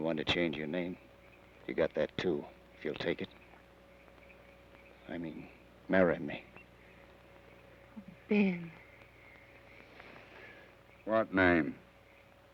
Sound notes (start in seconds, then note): none